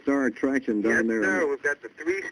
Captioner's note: on phone